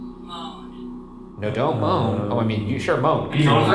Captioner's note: moaning